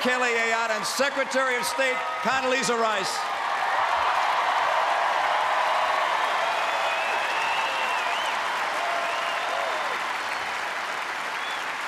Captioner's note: applause